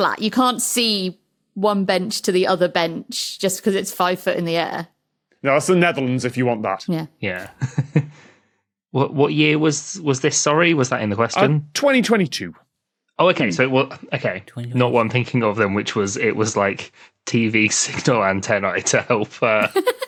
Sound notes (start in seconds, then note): 7.5 snickers; 19.6 group laughing